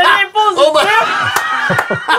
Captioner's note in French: rires